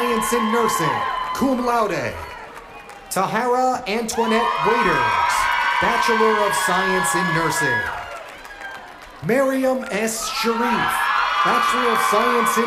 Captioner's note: cheers and applause